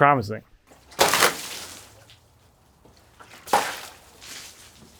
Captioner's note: water splashing